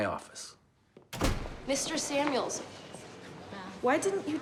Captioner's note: door slams